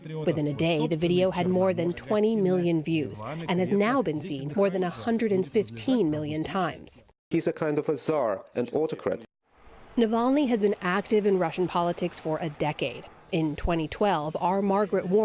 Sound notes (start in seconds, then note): 7.2 through translator